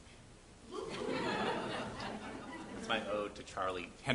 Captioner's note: audience laughs